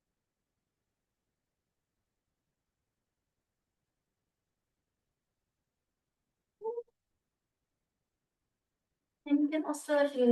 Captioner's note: pause